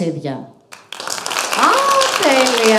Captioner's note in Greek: χειροκροτανε